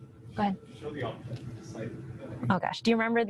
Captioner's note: audience member speaks from a distance